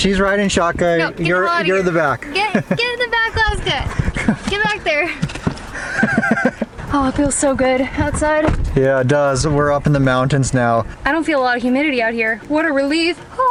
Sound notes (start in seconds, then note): 4.0 laughter